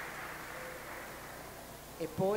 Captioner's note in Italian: Applauso